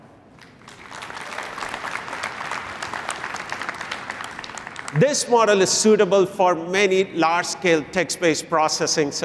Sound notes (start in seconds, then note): 0.3 applause